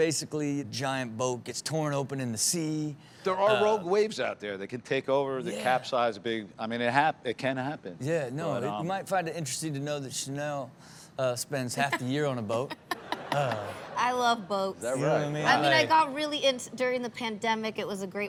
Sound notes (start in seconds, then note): 12.8 laughs